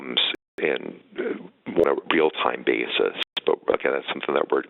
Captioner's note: audio dropping